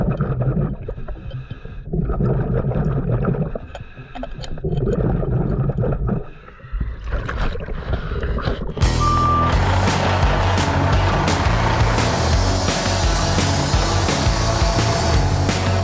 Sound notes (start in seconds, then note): 1.0 continuous heavy breathing through mask; 2.0 continuous water bubbling; 8.8 upbeat rock music